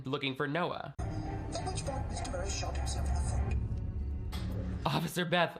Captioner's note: television playing